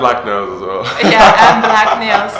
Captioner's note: laughter